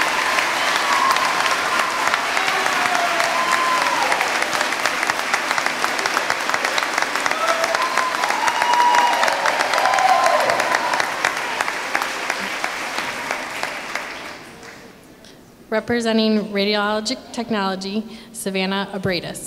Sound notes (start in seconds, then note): 8.6 applause